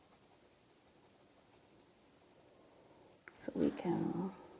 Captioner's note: pencil scratching